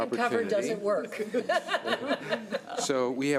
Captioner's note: laughing